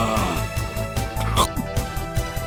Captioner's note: nom